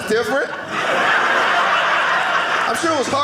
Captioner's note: audience laughing